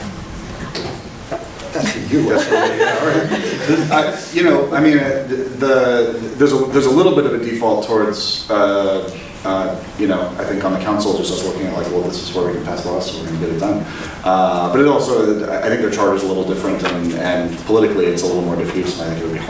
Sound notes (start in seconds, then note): 1.7 laughing